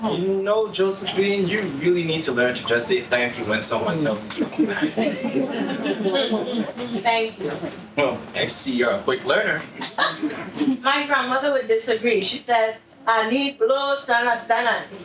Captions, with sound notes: You know, Josephine, you really need to learn to just say thank you when someone tells you. (audience laughs) Thank you. Well, I see you're a quick learner. My grandmother would disagree. She says, "Ani, plus, and a spanan.